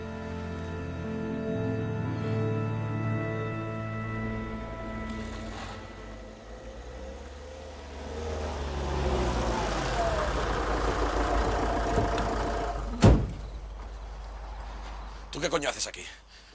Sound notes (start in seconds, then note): 0.0 soft music; 8.9 car approaching; 12.9 door slamming